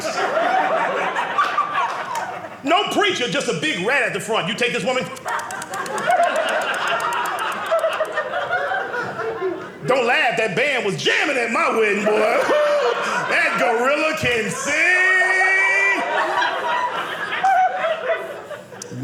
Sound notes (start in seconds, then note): 0.0 audience laughing; 4.9 imitates rodent sounds; 8.2 audience laughing; 16.6 audience laughing